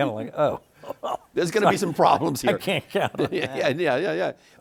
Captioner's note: chuckles